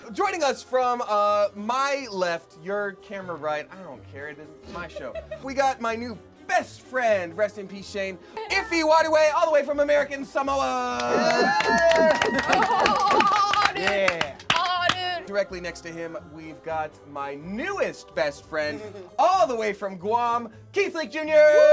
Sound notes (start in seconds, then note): 11.0 cheering